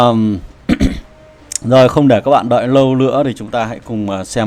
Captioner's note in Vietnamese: hắng giọng